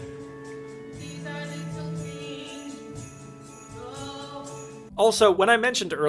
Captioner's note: sleigh bells in background